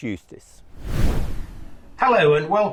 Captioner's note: air whooshes